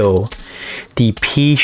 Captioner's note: inhales Oxygen